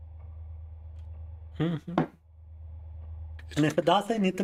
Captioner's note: humming